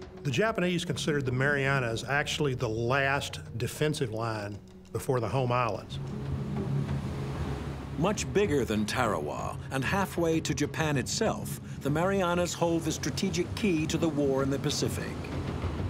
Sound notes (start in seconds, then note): 5.8 waves swishing; 15.7 dramatic ominous instrumental music